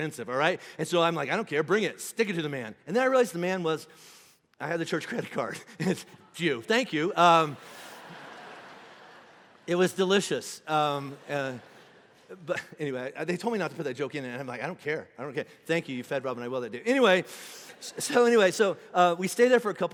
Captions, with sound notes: all right, and so, I'm like, I don't care, bring it. Stick it to the man, and then, I realized, the man was, (inhaling sharply) I had the church credit card and it's you, thank you. (congregation laughing) It was delicious, but anyway. They told me not to put that joke in, and I'm like, I don't care, I don't care. Thank you, you fed Robin and I well that day. Anyway, so anyway, so we stayed there for a couple nights